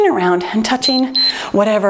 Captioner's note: timer beeps